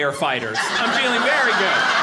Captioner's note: audience laughing